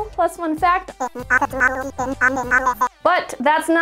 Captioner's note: speaking animalese